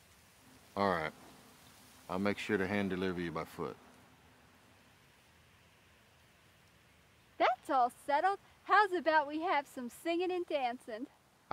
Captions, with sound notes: All right, I'll make sure to hand deliver you by foot. (wind gushing) - That's all settled. How's about we have some singing and dancing?